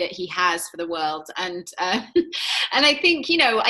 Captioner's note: giggles